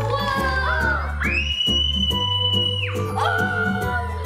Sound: upbeat Christmas music; kids cheering

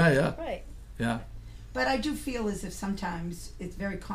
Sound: voiceover

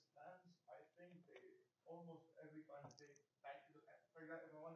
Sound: faintly speaks

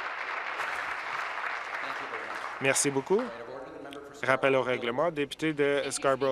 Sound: applause

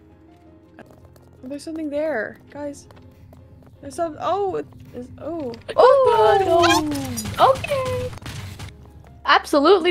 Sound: various ohs and oohs

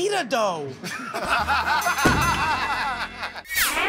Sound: laughter

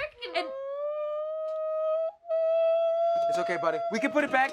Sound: ABED begins shrieking

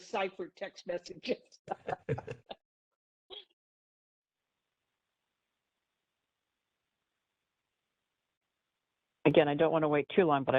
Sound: laughing

